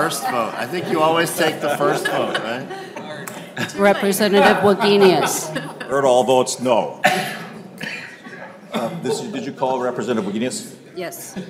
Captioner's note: laughter